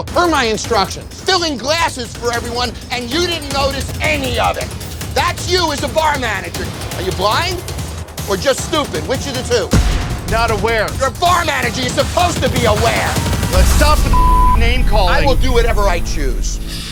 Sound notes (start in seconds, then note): 12.6 beep